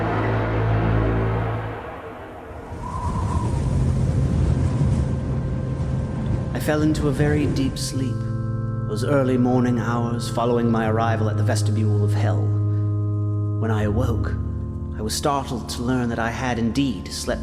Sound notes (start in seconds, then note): 3.6 eerie wind howls